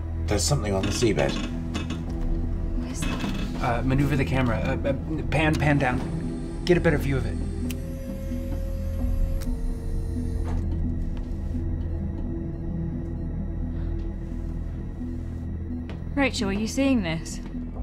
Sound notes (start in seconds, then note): 5.2 stammers; 8.5 camera whirring; 8.5 soft celestial music